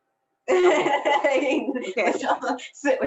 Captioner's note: all laughing